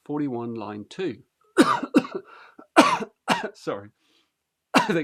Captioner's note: clears throat